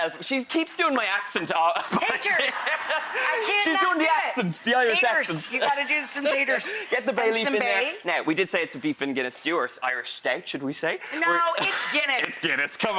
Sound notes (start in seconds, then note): 1.8 laughing